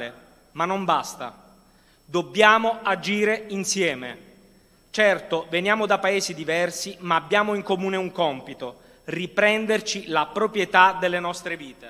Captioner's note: speaking non-english language